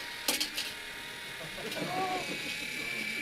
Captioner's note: tape measure extending